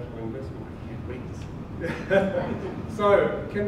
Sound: laughs

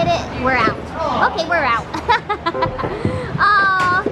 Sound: laughter

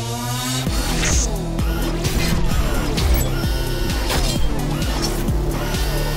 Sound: upbeat synth music; ax clanging

